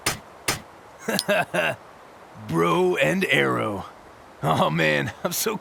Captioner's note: laughs